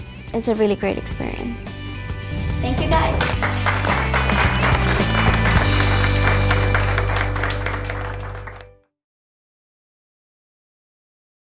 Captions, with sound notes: It's a really great experience. Thank you, guys! [ Clapping and music ]